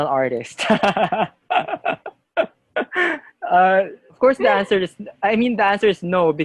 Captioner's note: laughter